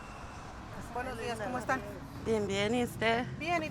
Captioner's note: foreign language